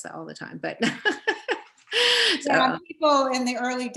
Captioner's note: laughs